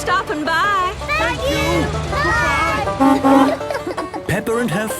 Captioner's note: honking